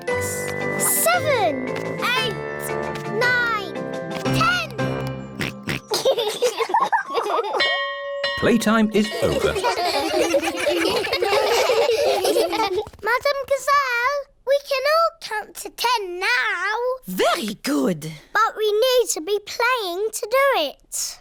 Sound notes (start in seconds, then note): 5.3 oinks; 5.4 both laugh; 7.5 bell chimes